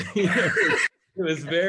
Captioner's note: laugh